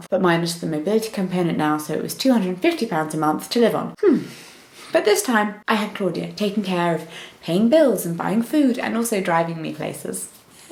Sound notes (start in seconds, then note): 4.0 sighs